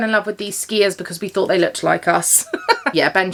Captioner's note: laughs